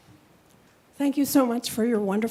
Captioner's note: woman's Voice